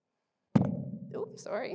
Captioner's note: bangs microphone